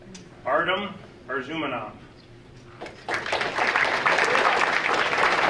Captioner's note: audience applauding